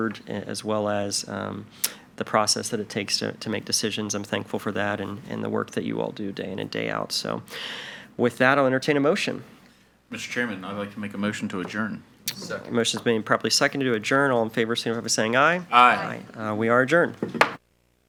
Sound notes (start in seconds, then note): 17.1 gavel taps